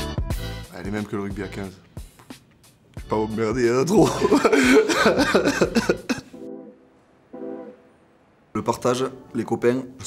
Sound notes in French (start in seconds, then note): 4.0 Rires